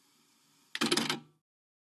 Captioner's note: cassette Tape Ejected